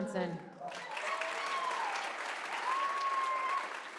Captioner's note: applause